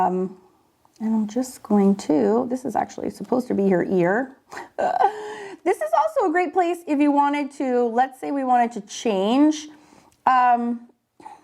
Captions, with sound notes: and I'm just going to, this is actually supposed to be her ear. (chuckles) This is also a great place if you wanted to, let's say we wanted to change,